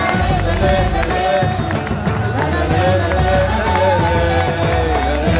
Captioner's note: cheering/Applause